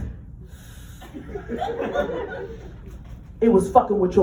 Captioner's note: inhales